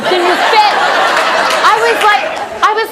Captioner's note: audience laughing